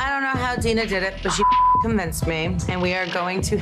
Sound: beep

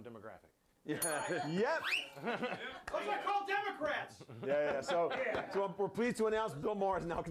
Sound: bell rings

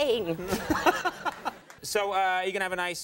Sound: Conan laughing

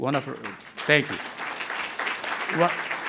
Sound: crowd applauding

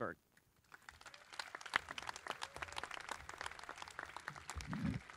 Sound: crowd clapping

